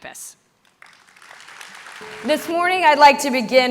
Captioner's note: audience clapping